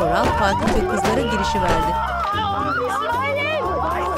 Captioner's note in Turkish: Bağırma sesi